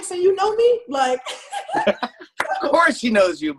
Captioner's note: laughs